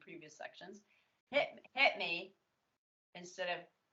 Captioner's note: twangy, tongue out